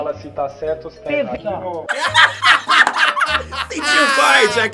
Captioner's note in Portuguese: risos